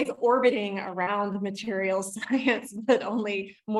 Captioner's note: giggles